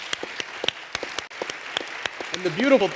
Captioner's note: applause